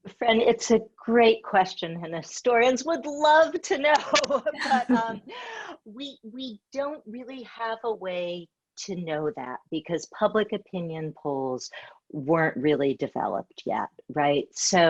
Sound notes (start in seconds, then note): 4.0 laughs